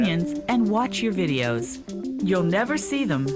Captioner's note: voiceover